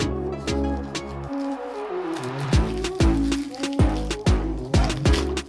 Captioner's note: paper crackles